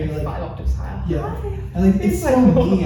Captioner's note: high pitch voice